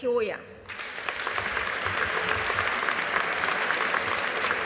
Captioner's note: audience applauding